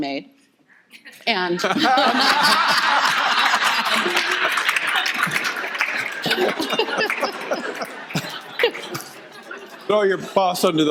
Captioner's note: audience laughter